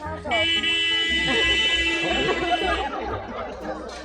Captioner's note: car horn honks